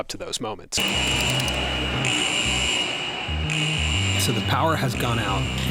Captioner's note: alarm sounding